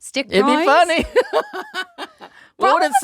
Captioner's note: laughing